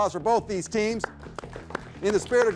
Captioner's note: group applauding